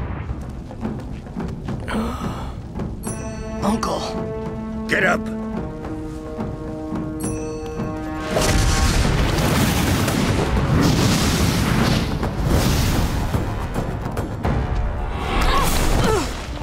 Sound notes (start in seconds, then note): 1.9 he inhales; 8.3 splash; 15.2 she exclaims; 15.2 whoosh